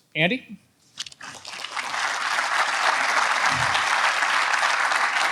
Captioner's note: audience applauds